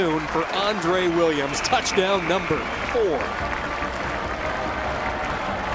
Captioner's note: cheers and applause